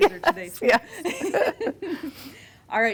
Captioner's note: laughing